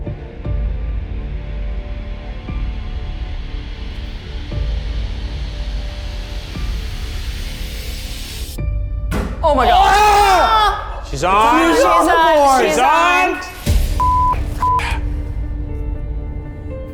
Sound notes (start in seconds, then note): 0.1 dramatic music; 9.4 everyone exclaims; 14.5 beep